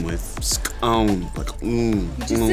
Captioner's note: speaking na'vi